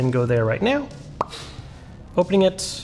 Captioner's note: app pops